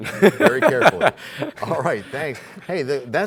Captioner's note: laughter